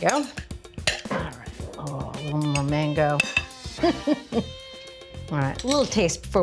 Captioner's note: laughs